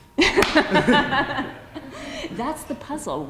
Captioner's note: laughs